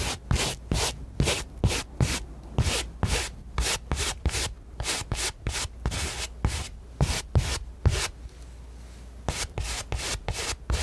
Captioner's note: scratching